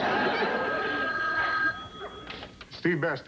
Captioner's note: telephone rings